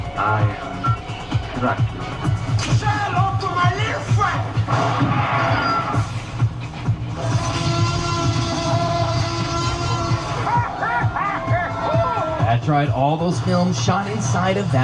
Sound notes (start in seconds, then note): 1.6 energetic music plays; 7.2 dinosaur roars; 9.6 actor laughs